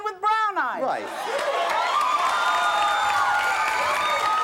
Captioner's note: cheering